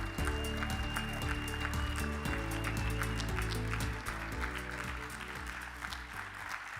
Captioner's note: audience whistles, applauds; upbeat music; audience cheers, applauds; upbeat music